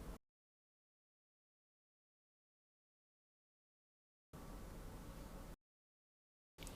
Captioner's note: silence